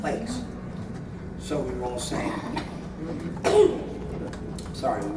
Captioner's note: cough